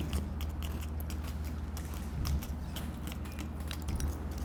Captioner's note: slurping soup